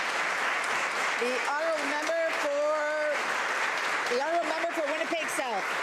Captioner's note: applause